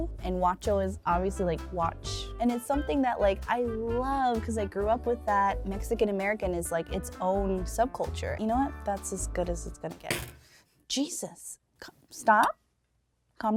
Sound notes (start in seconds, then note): 10.1 spatula crashes